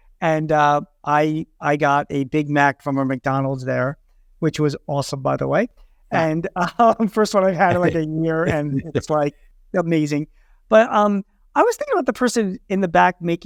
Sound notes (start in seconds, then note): 8.3 laughs